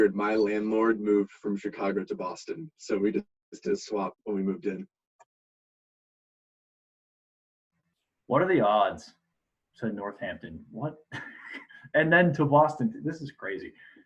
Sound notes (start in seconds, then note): 11.1 laughs